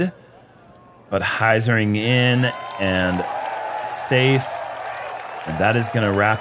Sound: crowd cheering

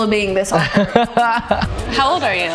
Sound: laughs

